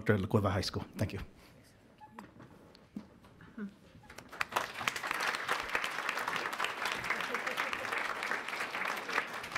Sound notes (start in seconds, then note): 4.1 audience applauds